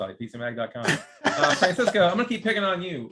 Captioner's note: laughing